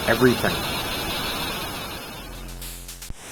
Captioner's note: crowd cheers